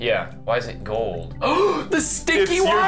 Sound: gasp

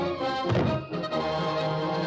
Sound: boom

